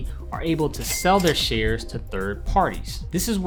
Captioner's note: cha-ching sound effect